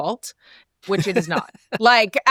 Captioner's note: laughs